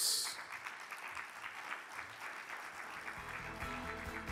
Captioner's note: audience applaud; cheerful upbeat music